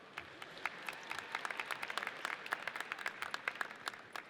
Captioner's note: audience applauds